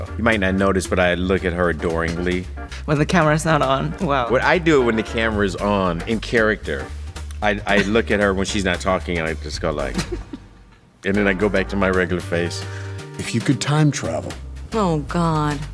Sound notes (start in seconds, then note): 9.7 giggling